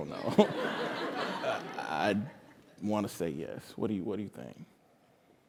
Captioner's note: laugh